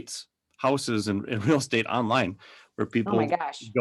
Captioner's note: giggles